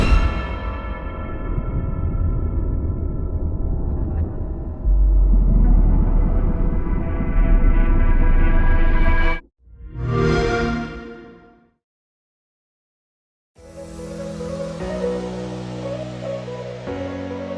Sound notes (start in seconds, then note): 0.0 dramatic sound; 9.5 xbox sound; 13.8 electronic music playing